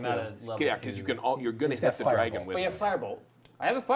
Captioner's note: all chattering